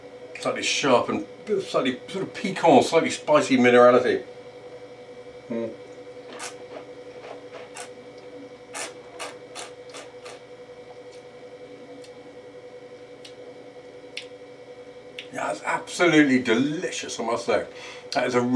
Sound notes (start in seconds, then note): 6.4 slurping